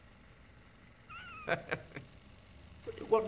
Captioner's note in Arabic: يضحك